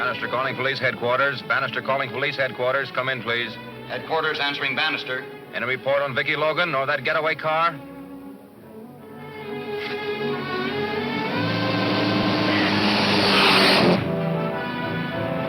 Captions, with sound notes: Bannister calling police headquarters, come in please. - Headquarters answering Bannister. - Any report on Vicki Logan or that getaway car? (car whooshing)